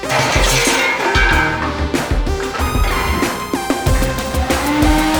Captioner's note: crashing metal and steel